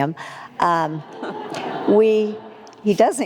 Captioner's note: audience laughs